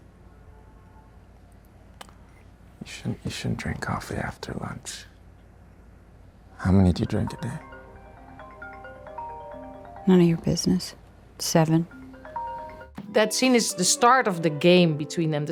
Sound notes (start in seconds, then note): 6.7 phone chiming